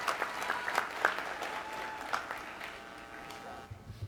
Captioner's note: applause